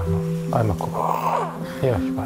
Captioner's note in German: Röcheln